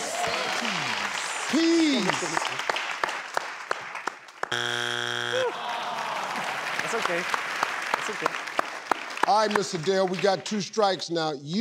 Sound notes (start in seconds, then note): 0.0 clapping; 4.6 beep